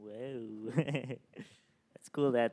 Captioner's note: laughs